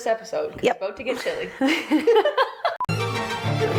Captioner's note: both laugh; upbeat music